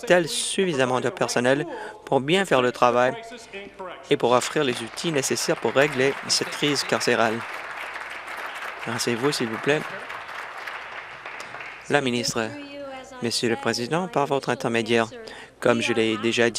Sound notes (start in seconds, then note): 6.8 applause